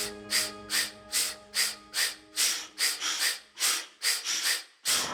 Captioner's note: air puffing rhythmically